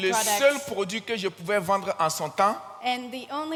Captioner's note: continues in French